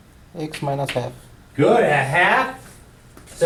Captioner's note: voiceover